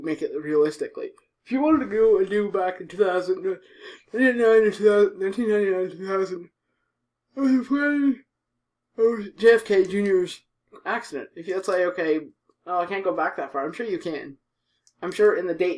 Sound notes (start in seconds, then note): 3.7 big yawn